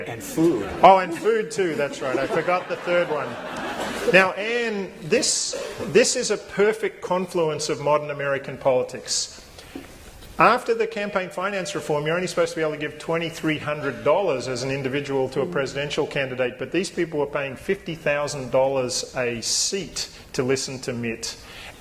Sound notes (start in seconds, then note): 1.6 laughter